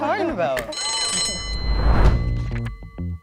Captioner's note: bell rings; funky music